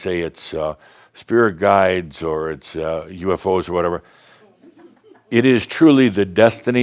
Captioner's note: a few giggles